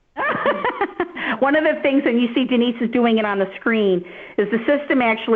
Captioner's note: laughter